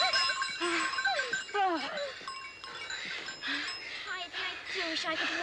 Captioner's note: both panting